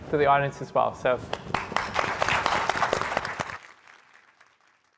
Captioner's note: crowd applause